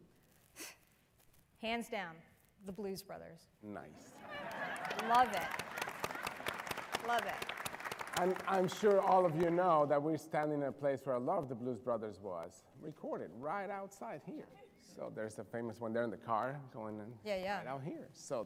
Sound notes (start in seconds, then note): 4.1 laughter; 4.2 applause